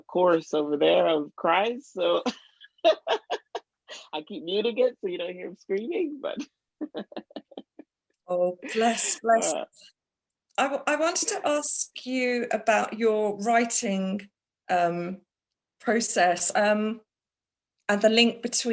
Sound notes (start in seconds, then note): 2.2 laughter; 6.8 laughs